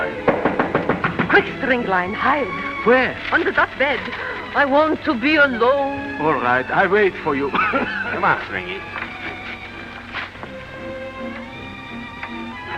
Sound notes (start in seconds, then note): 0.1 knocks on door; 7.5 deadly cough